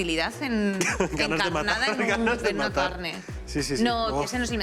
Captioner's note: laughing